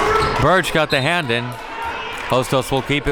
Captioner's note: whistle blows